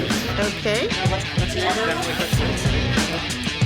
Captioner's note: background chatter; rock music